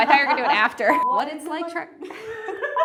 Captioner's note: both laughing; beep